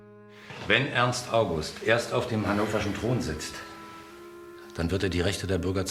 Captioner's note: speaking in foreign language